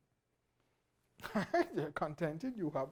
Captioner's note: laughs